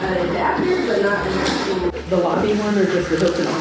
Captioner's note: background Chatter